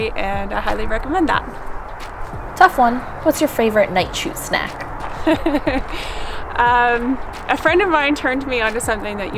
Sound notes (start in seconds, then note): 5.1 laughs